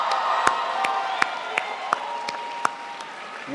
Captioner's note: crowd applauds